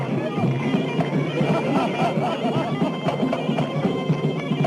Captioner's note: men laughing